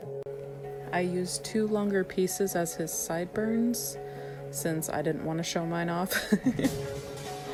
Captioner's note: giggles